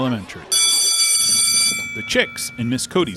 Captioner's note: bell ringing